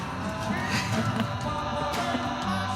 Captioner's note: laughs